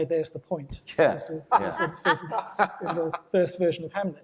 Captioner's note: panelists Laughing